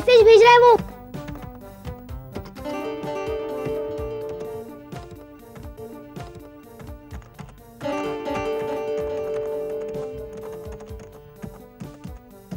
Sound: keyboard clacking

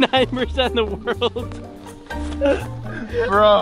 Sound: laughs

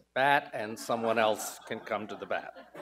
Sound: audience laughs

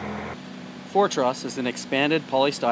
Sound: machine buzzing distantly

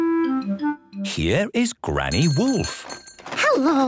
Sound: bell jingling

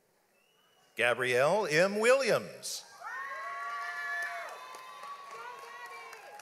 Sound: audience applauds

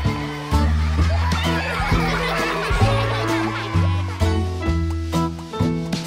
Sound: giggles

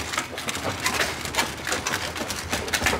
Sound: crunch

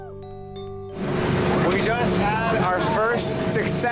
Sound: cheering; boat engine

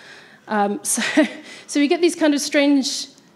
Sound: laughs

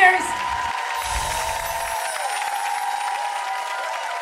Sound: applause

